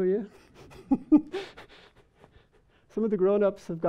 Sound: people laughing

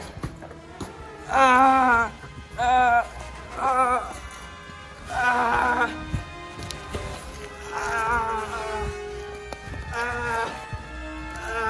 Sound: painful yelling

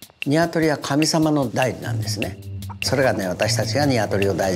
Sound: speaking in Japanese

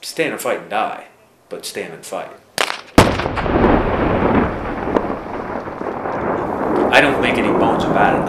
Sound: weapon fires

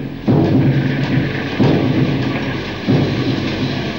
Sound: pounding metal and steam engine noises

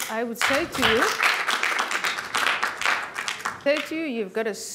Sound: applause

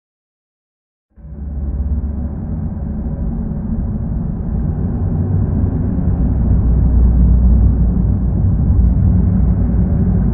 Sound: sound of storm

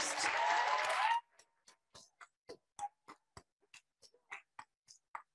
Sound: audience applauding

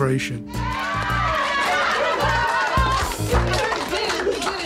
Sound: crowd cheers

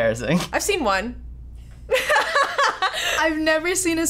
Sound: laughing

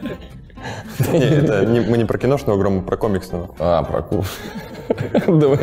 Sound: voice-over

